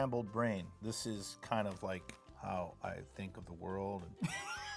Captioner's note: laughs